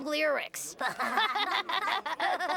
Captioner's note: laughing